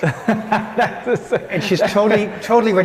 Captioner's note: laughing